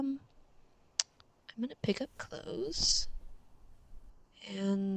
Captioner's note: clicks tongue